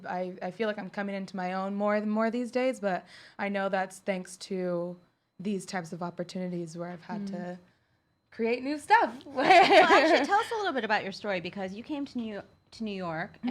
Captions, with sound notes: I feel like I'm coming into my own more and more these days, but I know that's thanks to these types of opportunities where I've had to create new stuff. (laughs) - Well, actually tell us a little bit about your story. Because you came to New York,